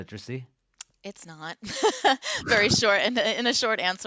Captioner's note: laughs